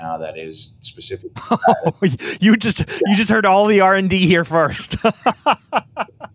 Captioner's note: laughs; laughs